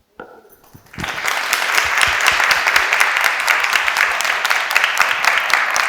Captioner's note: audience applauding